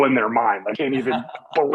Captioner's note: laughs